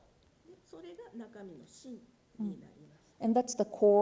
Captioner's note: speaking japanese